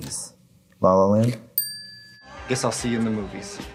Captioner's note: bell dings